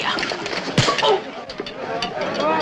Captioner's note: punching